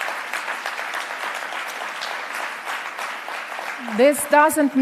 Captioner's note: applause